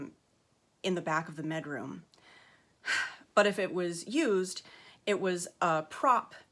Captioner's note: sharp exhale